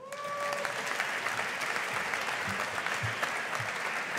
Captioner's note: audience applauding